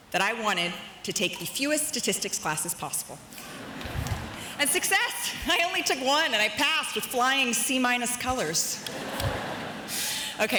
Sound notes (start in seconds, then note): 3.4 audience chuckles; 8.8 audience laughs